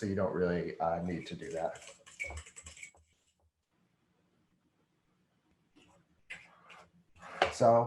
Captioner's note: silence